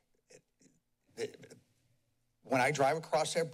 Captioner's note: pause